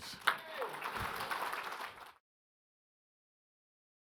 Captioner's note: audience applauds